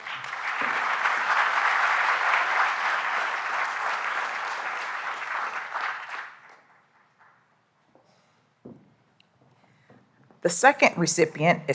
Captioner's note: applause